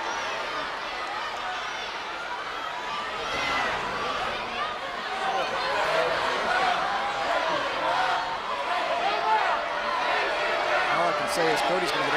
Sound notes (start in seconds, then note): 0.2 crowd yelling